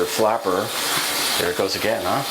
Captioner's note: flushing sound